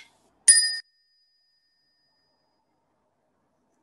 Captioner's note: bell chimes